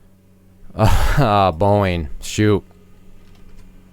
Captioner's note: laughs